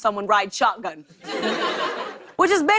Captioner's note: laughter